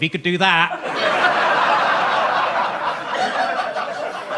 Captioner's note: audience laughs